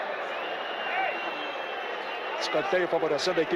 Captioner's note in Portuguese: aplausos